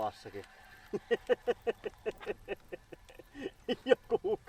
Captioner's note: maniacal giggle